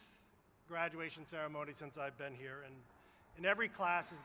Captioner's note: applause